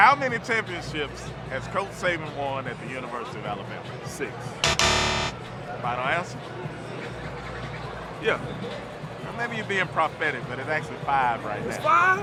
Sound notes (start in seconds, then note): 4.6 X buzzes